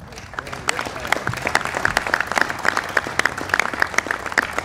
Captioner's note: applause